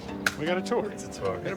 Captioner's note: hands slapping